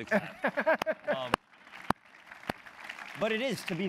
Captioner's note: applause